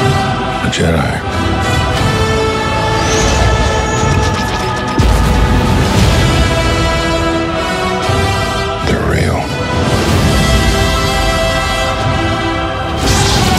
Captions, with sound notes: The Jedi. (lasers blasting) (explosion) They're real.